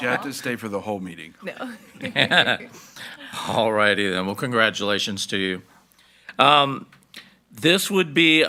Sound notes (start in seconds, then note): 1.6 laughing